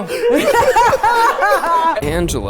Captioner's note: everyone laughing